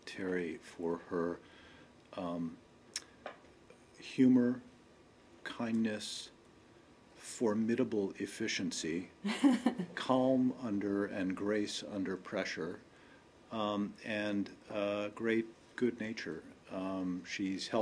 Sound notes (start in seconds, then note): 9.2 laughter